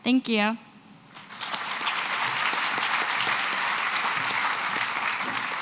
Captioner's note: applause